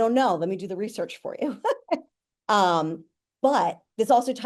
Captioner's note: chuckling